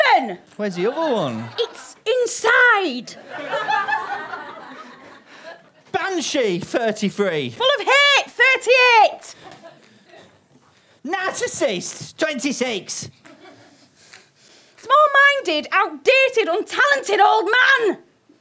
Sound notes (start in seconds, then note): 3.0 audience laughter